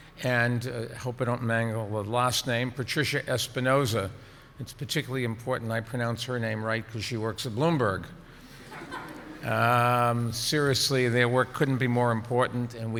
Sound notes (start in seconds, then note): 8.6 audience chuckles